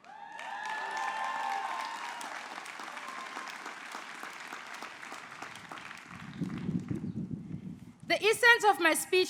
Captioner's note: applause